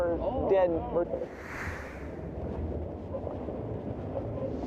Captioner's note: wind howling